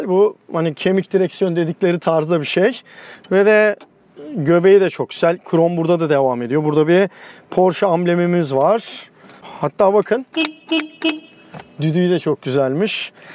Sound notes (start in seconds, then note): 10.3 honking